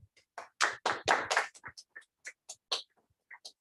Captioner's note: applause